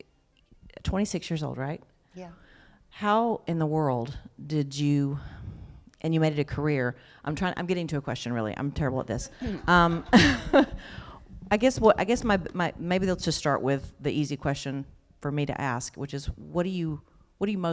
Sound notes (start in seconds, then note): 9.4 laughter